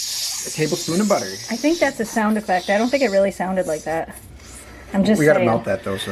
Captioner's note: making sizzling sounds; sizzling